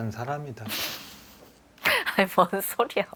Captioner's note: laughs